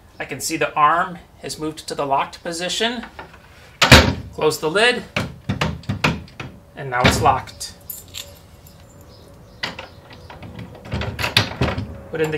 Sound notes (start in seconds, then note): none